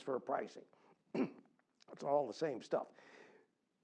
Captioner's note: cough